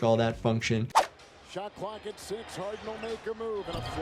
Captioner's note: audio whooshes